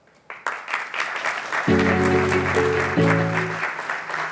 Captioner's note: audience applauding